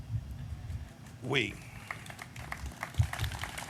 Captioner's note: applause